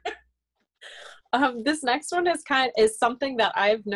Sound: laughter

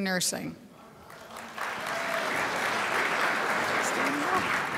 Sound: crowd applauds

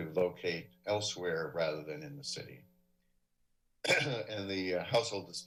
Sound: coughs

